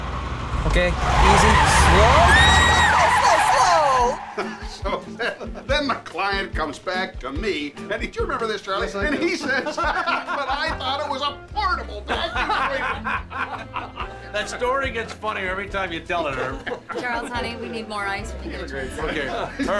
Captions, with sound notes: OKAY. EASY. SLOW ! SLOW, SLOW, SLOW ! [ Whooping ] SO THEN THE CLIENT COMES BACK TO ME-- DO YOU REMEMBER THIS, CHARLIE ? AND HE SAYS, "BUT I THOUGHT IT WAS A PORTABLE VACUUM CLEANER !" [ Laughing ] THAT STORY GETS FUNNIER EVERY TIME YOU TELL IT, HERB. CHARLES, HONEY, WE NEED MORE ICE WHEN YOU GET A CHANCE.